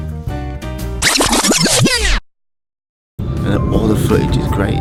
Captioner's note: record rewinds